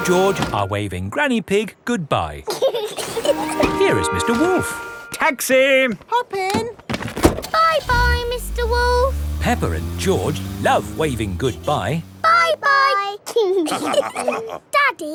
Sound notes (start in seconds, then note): 2.5 both laughing; 7.3 engine starts; 13.6 all laughing